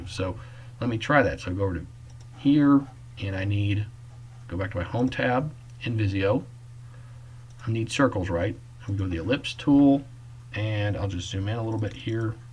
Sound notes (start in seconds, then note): 2.0 click; 6.4 click; 11.7 clicking